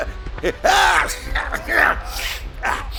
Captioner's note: sneezing